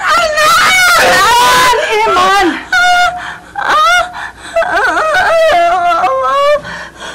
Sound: whining

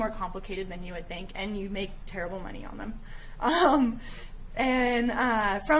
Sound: giggling

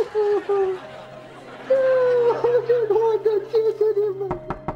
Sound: crying; knocking

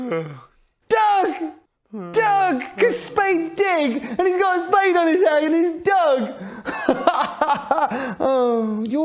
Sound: gives a huge yawn

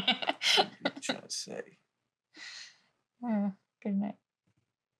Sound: she laughs; she chuckles and sighs

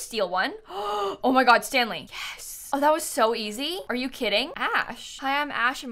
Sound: gasps

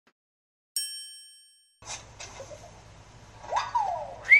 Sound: bell chimes

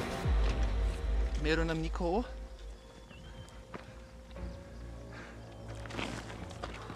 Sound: tibetan

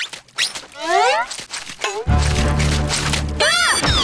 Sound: sloshing; shrieking

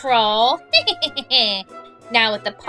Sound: laughing

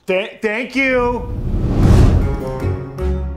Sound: whooshing; dynamic music

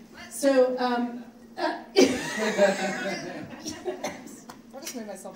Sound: audience laughs

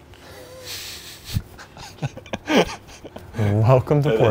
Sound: laugh

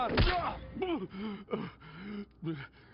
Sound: gasps

